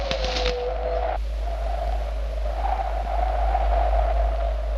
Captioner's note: wolf howling; wind howls